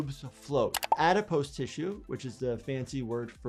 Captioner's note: keyboard keys clicking